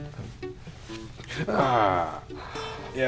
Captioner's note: gasp